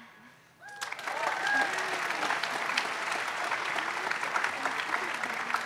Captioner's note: audience applauds